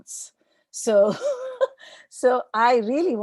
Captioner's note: laughs